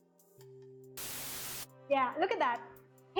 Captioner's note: white noise